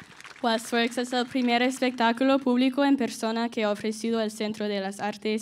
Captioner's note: audience applauds; audience cheers; speaking in Spanish